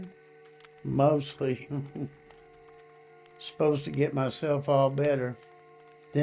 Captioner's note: chuckles